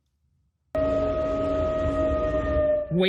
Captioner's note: sirens blaring